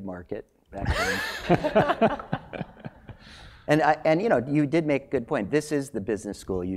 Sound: laugh

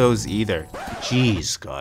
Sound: record scratch

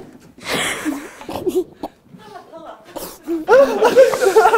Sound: couldn't hold his laughing

